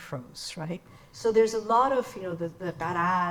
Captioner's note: speaks in foreign language